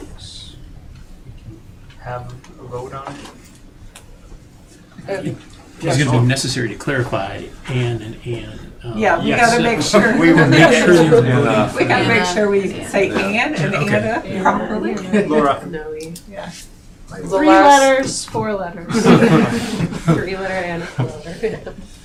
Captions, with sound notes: Folks, we can have a vote on it. It's gonna be necessary to clarify and and and. Yeah, we gotta make sure. We will make sure you do enough. I gotta make sure we say and and and properly. Laura. No, we, yeah. Three letters. Four letters. (all laughing) Three letter and four letters.